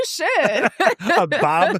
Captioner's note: laughs